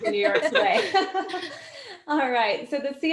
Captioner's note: laughing